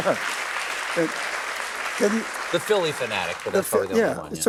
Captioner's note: applause